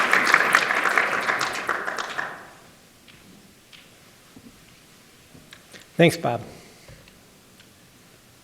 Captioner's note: applause